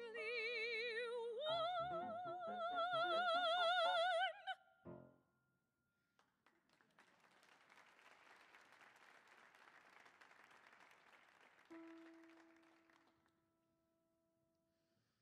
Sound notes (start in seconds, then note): 6.5 audience applauding; 11.7 soft music